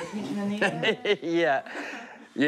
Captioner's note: laughs